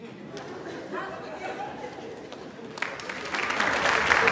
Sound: audience laughs; audience applauds

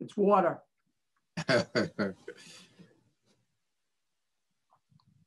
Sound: laughing

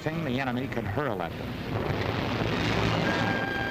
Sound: explosions, gunfire

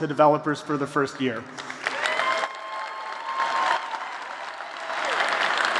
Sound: applause

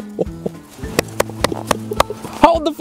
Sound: chuckling; applauding

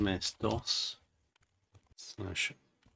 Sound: typing

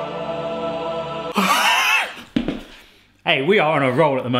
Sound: choir music; wheezing

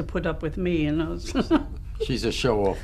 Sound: laughs

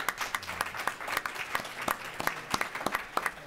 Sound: applause

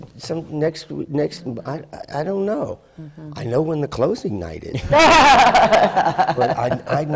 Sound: laughter

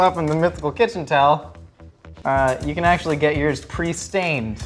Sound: none

